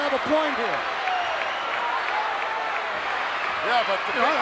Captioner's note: crowd yelling